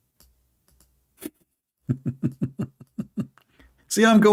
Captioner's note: Ketawa